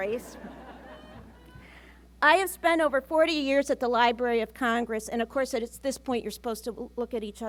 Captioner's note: laughter